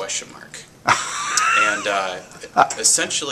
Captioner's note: laughter